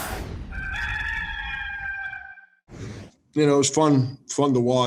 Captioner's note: rooster crowing